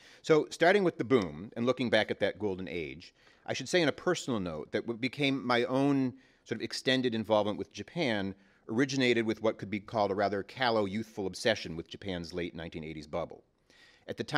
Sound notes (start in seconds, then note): none